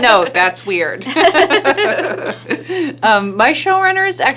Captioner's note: laughing